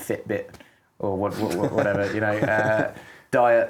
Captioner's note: laughing